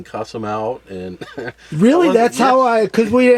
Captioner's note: laughs